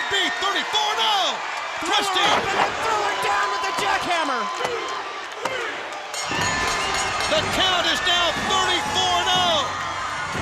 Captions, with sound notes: CAN IT BE 34 NOW? THRUSTING. >> THROW HIM UP AND THEN THREW HIM DOWN WITH THE JACKHAMMER. >> [BELL RINGING] >> THE COUNT IS NOW 34-0.